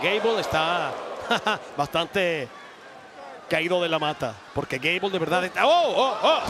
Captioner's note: laugh